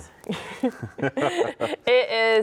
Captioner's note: both laugh